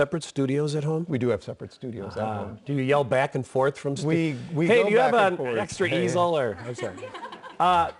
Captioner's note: laughter